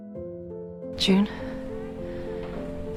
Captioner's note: voiceover